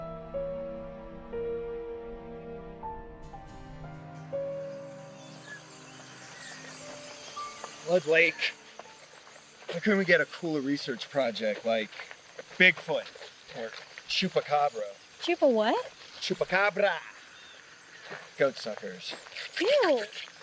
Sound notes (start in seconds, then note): 3.2 suspenseful Piano Music Fades; 5.0 birds Chirping; 19.5 Penn Slurping